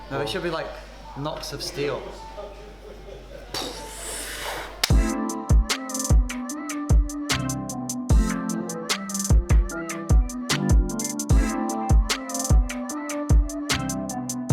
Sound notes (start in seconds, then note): 3.4 imitates bomb exploding; 4.5 claps hands; 5.3 downtempo pop music plays